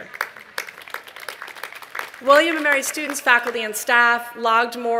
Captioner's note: applause